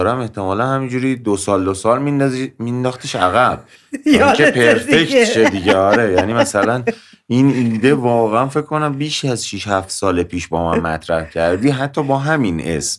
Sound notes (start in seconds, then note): 4.0 laughter